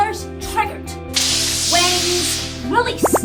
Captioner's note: fizzle